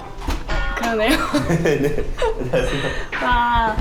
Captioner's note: can't stop laughing